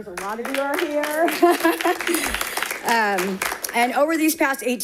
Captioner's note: audience clapping